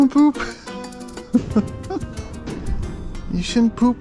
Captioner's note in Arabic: يضحك